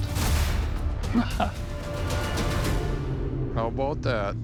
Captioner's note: laughs